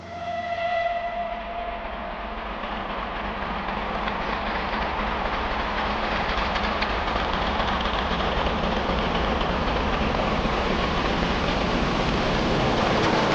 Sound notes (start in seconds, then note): 7.1 train passes